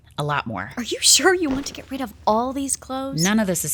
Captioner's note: sounds of clothes being tossed into pile